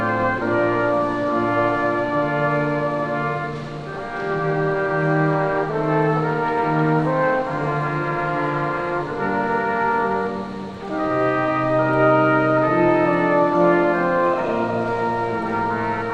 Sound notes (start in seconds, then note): none